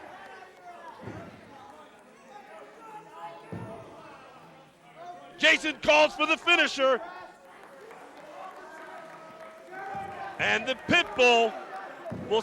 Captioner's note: crowd chatter